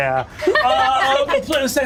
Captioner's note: laughing